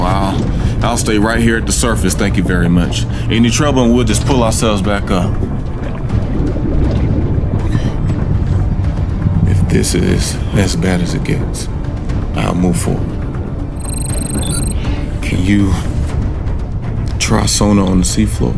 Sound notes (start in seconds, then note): 6.3 water bubbling; 13.7 system beeping